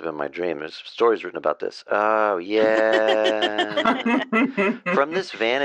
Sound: laughter

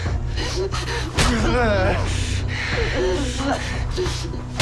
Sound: punches thud

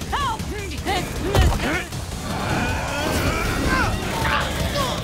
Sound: grunting

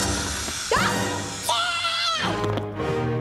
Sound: screaming

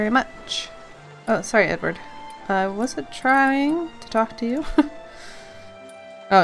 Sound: laughs

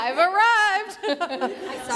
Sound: laughter

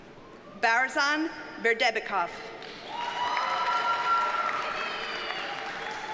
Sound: audience cheers and applauds

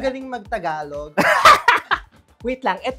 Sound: laughs

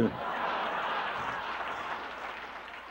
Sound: laughter

